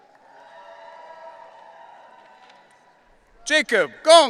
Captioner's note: audience cheering